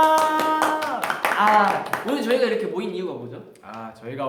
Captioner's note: claps